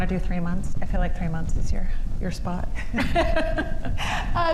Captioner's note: chuckles